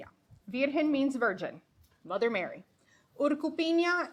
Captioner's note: speaking foreign language